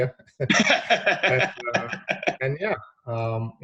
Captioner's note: laughing